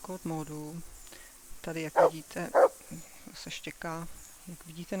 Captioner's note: dog barking